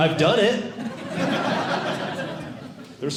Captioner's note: audience Laughing